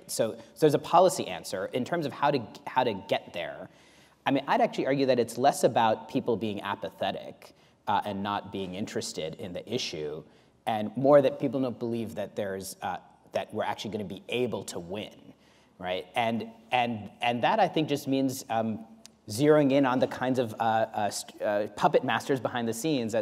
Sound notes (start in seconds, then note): none